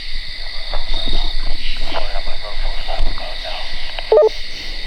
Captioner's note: insects chirp; walkie garbles; walkie beeps